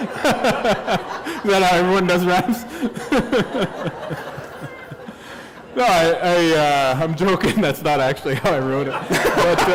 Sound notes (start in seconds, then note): 1.5 laughter